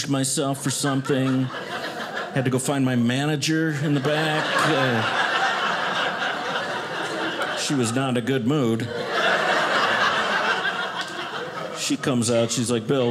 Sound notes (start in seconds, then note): 4.9 audience laughing; 9.2 audience laughing